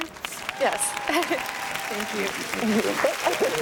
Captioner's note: chuckles; audience cheers and applauds